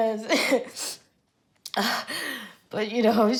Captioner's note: Coco sniffles